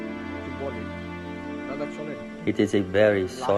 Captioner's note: speaking foreign language